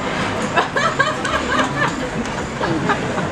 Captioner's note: laughs